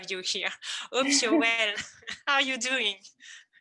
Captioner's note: chuckles